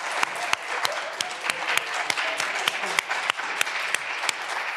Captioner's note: candidates laughing